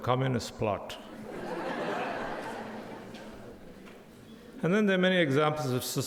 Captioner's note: audience laughing